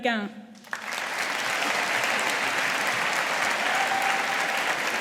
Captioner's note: audience applauding